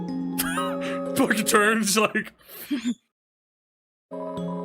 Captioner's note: stammers and laughs; laughs